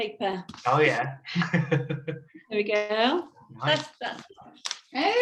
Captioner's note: chuckles